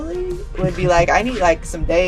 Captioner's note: laughs